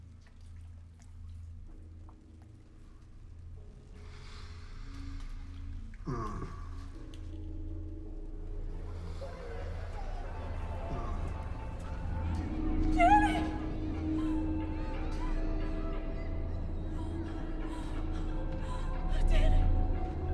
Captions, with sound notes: (gentle tense music) (voices whispering) - Danny! (eerie music) (Bryn gasping) Danny!